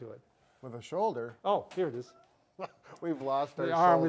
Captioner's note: laughs